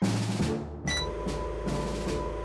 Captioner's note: beep